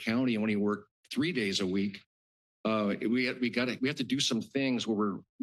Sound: stutters

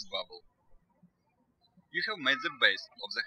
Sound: birds chirping

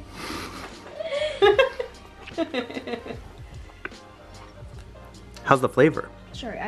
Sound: laugh

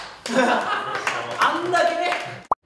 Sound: applause

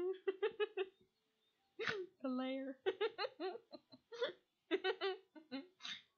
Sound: giggling; continued giggling; more giggling

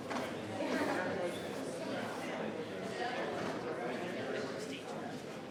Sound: people continue chattering

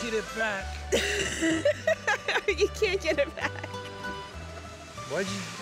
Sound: laughs

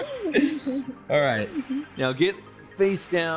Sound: laughing

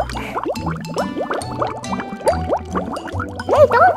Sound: water bubbling

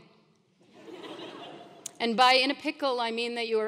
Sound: laugh

